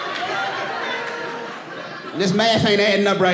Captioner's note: audience laughing